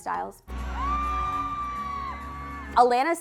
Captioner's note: crowd members cheering